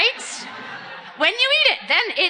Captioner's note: audience laughing